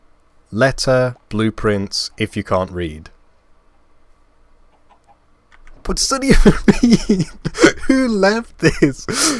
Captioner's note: laughing